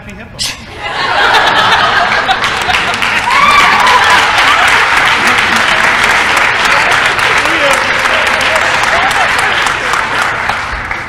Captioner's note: crowd laughter & applause